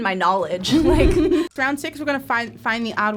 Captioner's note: animation whooshes